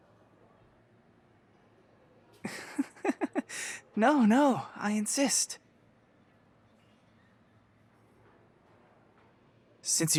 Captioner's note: chuckle softly